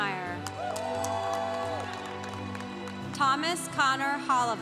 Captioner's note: congregation cheering